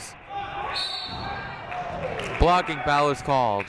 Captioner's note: whistle blows